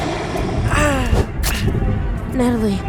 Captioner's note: groaning in pain